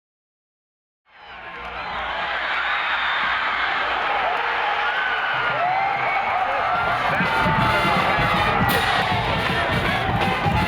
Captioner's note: cheering